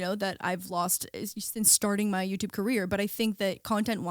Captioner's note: none